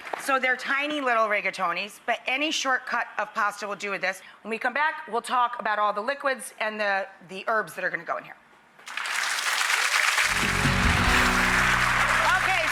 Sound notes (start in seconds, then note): 8.8 applause